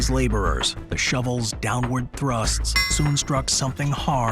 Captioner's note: shovel clangs